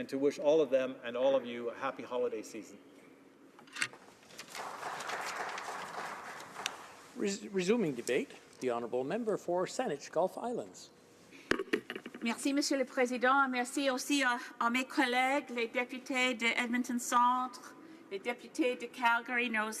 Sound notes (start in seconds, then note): 7.6 some Applause